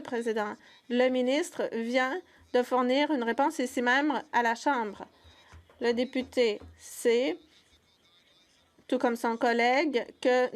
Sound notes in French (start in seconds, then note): 1.6 voix de l'interprète